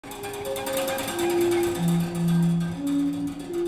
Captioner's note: rhythmic tapping